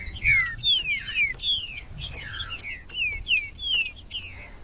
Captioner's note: trinca ferro cantando